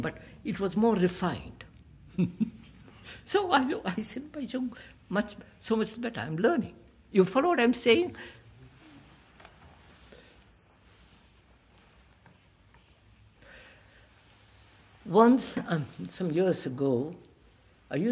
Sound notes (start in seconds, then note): 2.3 laughs